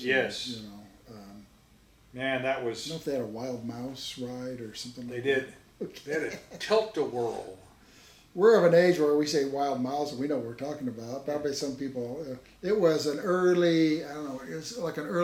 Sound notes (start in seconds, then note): 5.8 laughs; 12.4 mimics mumbling